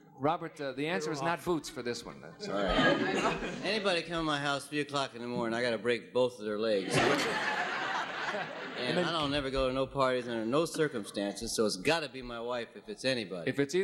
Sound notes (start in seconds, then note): 6.8 audience laughing